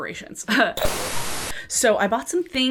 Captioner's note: white noise